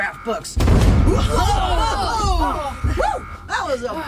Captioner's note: A huge CRASH strikes the ship, the crew exclaim